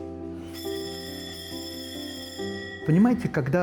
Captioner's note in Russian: звучит фоновая музыка; звучит звонок